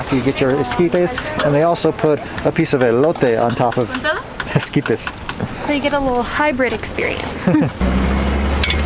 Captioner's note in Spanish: Risas